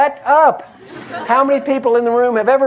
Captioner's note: laugh